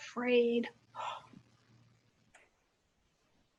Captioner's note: gasps